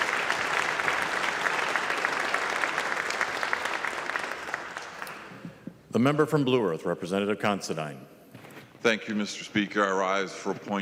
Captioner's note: applause